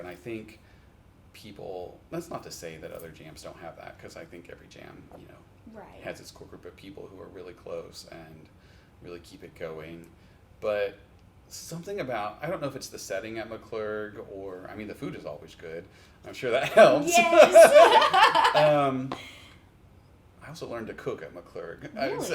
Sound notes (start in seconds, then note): 16.6 laughs